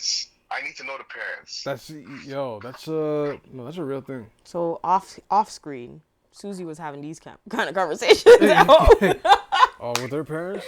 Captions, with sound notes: "I need to know the parents." - That's, yo, that's a real thing. So off screen, Susie was having these kind of conversations. [LAUGHING] - Oh with her parents?